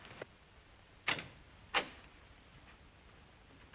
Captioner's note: door opens